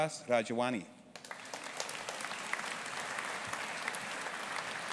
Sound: audience applauding

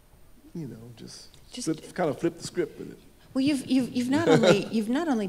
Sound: chuckles

